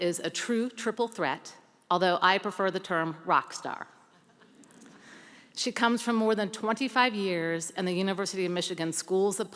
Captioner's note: laughter